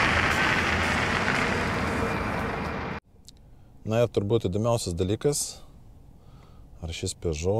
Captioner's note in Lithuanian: Plojimai